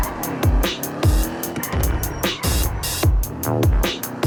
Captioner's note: car brakes and engine sounds